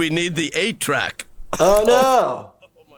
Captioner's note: Archer coughs